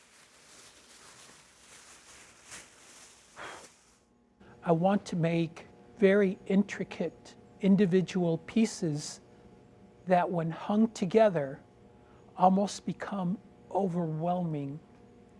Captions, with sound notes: (plastic rustling) (breath whooshing) I want to make very intricate individual pieces that, when hung together, almost become overwhelming